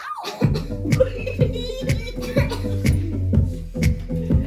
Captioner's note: audience laughs